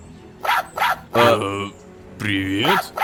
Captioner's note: robodog barking